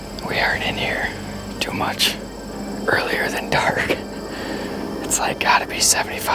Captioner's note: laughs